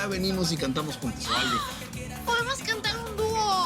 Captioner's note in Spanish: Grito ahogado